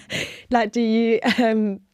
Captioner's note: laughter